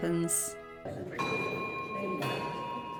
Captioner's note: bell chimes